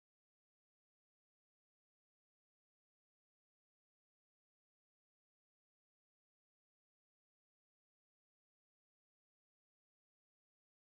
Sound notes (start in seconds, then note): none